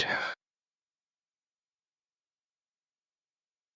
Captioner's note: blank Audio